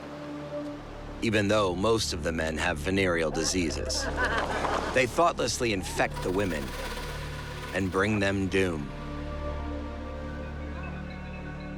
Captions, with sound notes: Even though most of the men have venereal diseases. [laughing] They thoughtlessly infect the women and bring them doom.